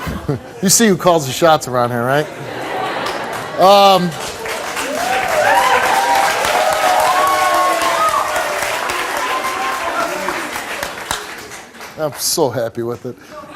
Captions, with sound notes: You see who calls the shots around here, right? (audience applauds) I'm so happy with it.